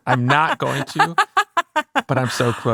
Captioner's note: laughing